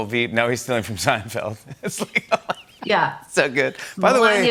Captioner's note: laughter